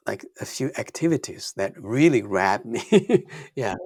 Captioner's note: laughs